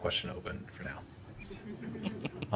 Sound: laughter

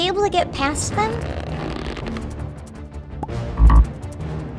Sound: slingshot squeaking; buzzer buzzing

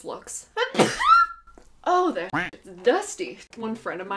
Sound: sneeze

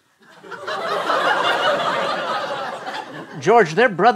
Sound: laughter

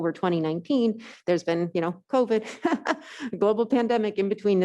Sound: laughs

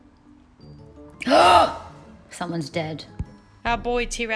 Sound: gasping

